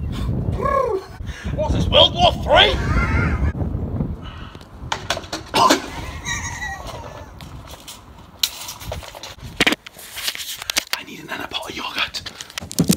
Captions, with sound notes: (Cooing and laughing) What's This? World war 3!? I need another pot of yoghurt!